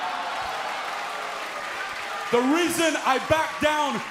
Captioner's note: cheers & applause